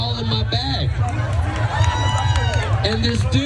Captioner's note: applause